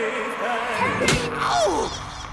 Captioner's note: smack